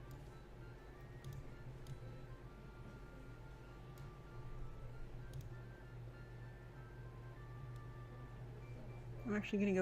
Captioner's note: clicks, types